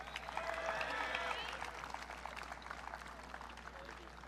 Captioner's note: audience cheering